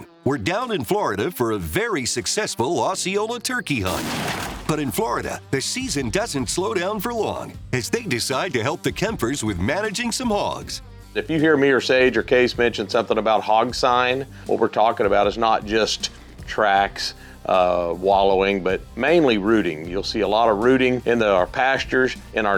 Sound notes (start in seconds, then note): 3.9 gunshot